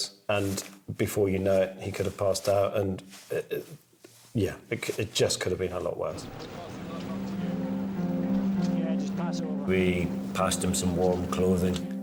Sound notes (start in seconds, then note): 6.1 people chattering; 6.1 soft music